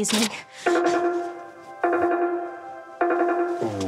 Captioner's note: beeping